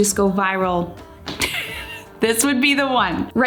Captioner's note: chuckles